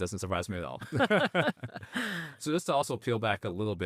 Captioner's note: laughing